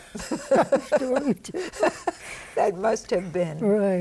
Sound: both laugh

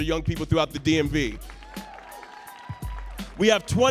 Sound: audience cheering

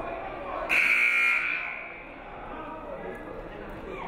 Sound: buzzer buzzes

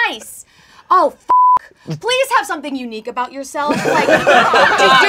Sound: beeping

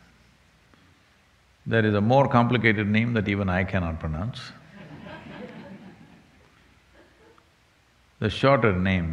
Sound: laughter

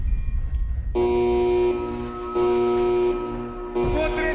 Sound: alarm buzzing

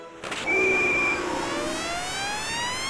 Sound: whistle

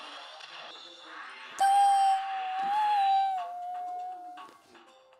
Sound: silly noise

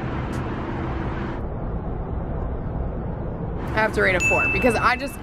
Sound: ominous whooshing; dings

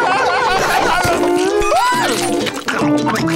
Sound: squealing

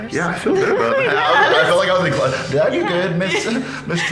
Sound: both laughing

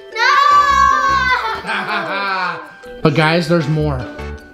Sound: laughs

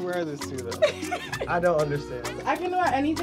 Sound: laughs

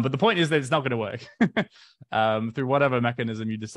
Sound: chuckles

